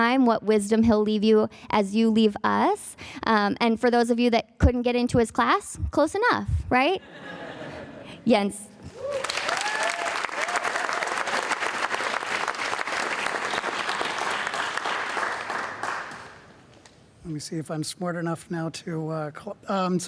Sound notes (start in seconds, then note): 7.0 audience laughing; 9.0 audience applauding